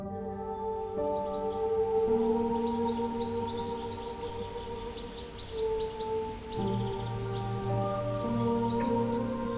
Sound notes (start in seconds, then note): 1.5 birds chirp; 6.9 slow music